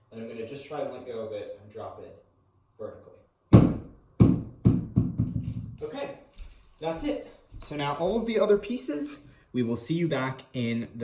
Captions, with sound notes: And I'm gonna just try and let go of it and drop it vertically. (ball bounces) Okay. That's it. So now, all of the other pieces, we will see you back in